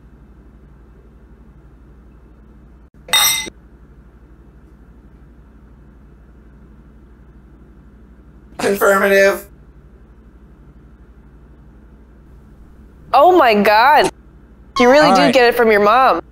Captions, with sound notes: *clink glasses* Confirmative Oh my God You really do get it from your mom